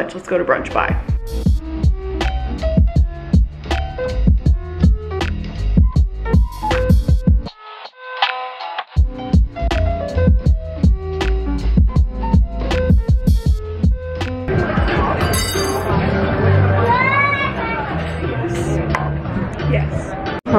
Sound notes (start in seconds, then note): 0.1 light music; 14.5 people chattering; 14.6 moderate music; 15.2 utensil clangs; 16.8 child shouts